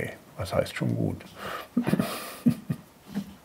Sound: he laughs softly

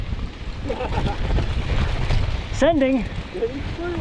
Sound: laughing

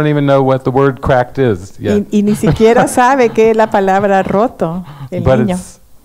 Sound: laughs

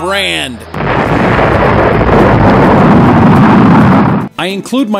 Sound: rocket blasting off

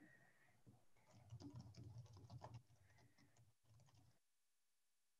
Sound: keyboard clacking

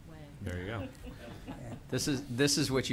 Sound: laughter

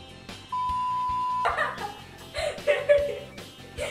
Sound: laughs

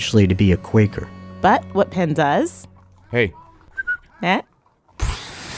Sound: whistles

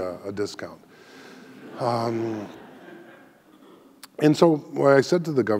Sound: audience laughing

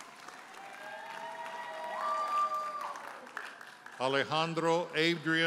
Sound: audience cheers and applauds

